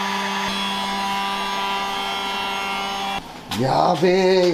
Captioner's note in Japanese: モーター音